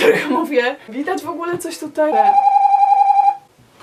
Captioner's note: doorbell